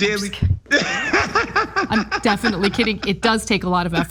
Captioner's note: laugh